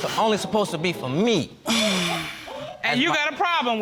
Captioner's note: exhales